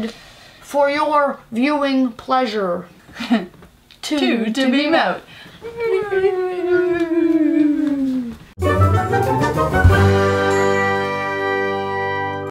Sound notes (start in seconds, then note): 6.7 whoooo